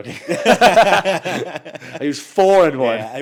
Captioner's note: both laughs